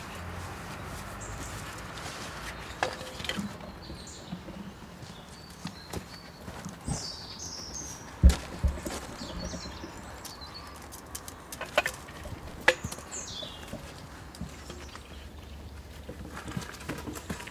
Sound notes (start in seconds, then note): 3.4 birdsong